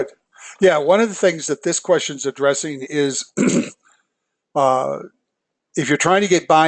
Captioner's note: cough